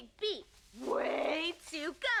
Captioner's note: none